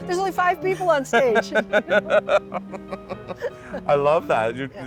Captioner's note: people laughing